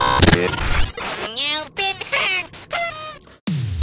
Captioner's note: Static; party horn noise plays; intro music plays